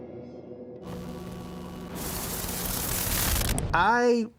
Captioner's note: TV Static Sound